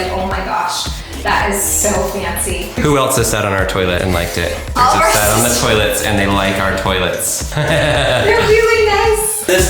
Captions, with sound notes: "Oh my gosh! That is so fancy!" - Who else has sat on our toilet and liked it? - All of our sisters. - They sat on the toilets and they like our toilets. (laughing) - They're really nice!